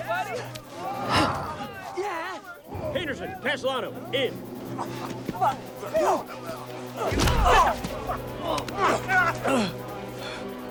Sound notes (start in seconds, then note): 7.3 Dalton grunts